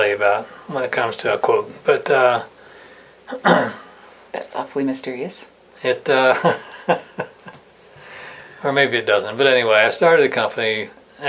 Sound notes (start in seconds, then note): 3.4 clearing throat; 6.2 laughing